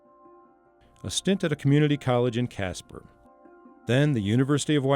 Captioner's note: voiceover